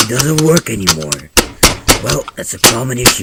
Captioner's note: mouse hitmarks